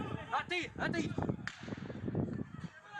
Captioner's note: people yelling in foreign language; gun fires